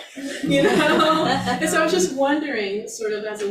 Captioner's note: all laugh